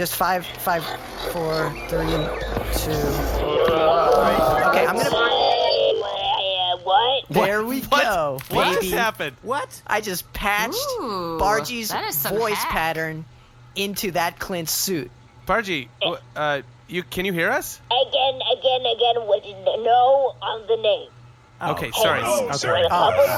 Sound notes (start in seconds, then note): 5.0 The sounds of AJ’s helmet morph into Bargie’s voice